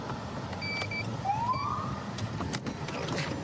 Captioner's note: siren chirps